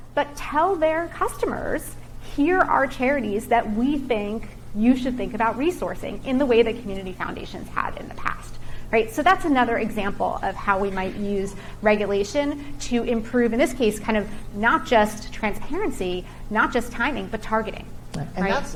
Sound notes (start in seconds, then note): none